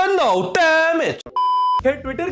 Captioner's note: beep